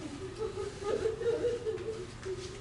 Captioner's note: laughter